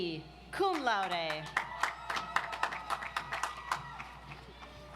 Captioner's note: audience applauds